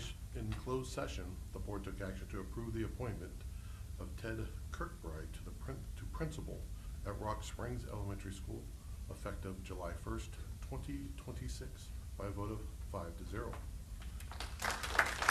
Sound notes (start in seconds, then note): 14.0 applause